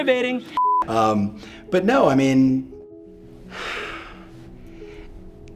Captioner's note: beep; exhales